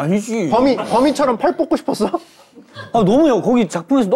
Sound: flustered

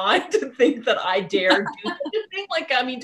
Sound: both laughing

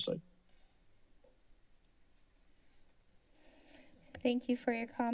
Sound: silence

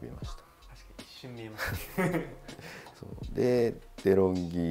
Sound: laughs

